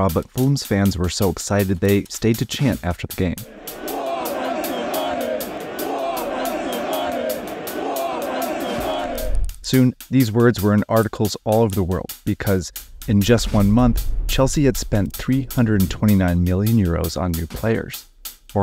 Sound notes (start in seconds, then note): 3.4 crowd